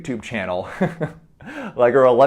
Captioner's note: chuckles